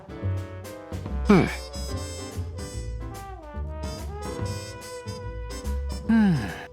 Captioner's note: sigh